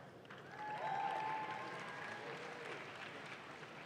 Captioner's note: audience claps